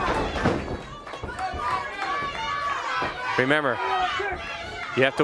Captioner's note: crowd chatter